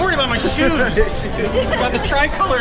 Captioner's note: chuckles